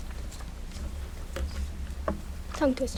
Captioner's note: none